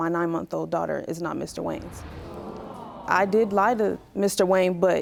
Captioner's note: audience gasping